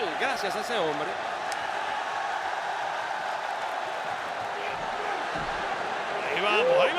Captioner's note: applause